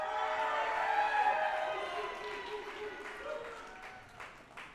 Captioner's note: group applauding and cheering